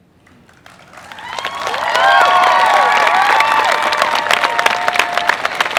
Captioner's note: crowd cheers